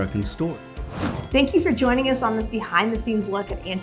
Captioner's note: air whooshing